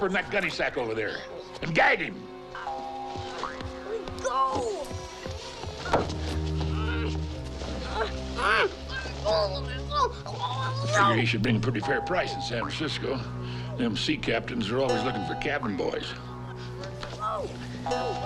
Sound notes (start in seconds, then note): 5.4 door slams; 5.4 hinges creak; 6.6 Ben fussing; 8.6 Ben mumbling urgently